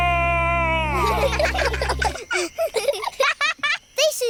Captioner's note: children giggle